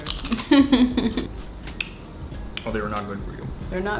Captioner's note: laughs